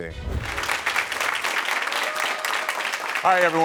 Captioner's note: audience applauding